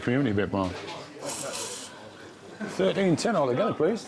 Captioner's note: people chattering; machine swishing